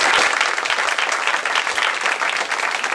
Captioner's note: applause